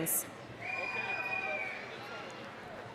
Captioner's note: applause, cheering